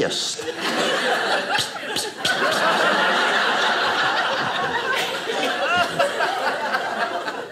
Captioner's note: audience laughing